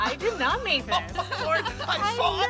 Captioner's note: all laughing